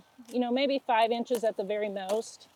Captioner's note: broccoli rustling